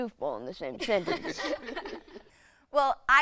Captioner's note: all laughing